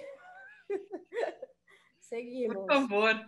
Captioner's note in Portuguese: risos